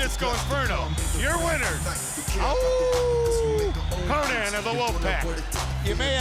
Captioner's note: howls